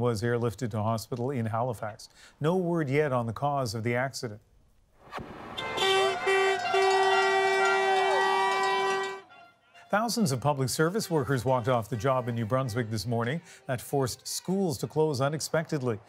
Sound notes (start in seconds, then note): 7.4 horns beeping